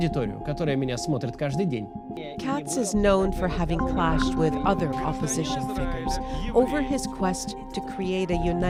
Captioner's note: speaking alternate language